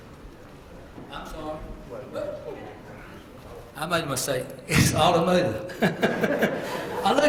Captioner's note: laugh